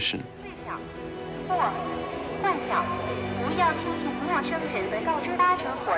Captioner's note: hablan un idioma extranjero